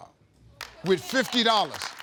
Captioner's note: group applauding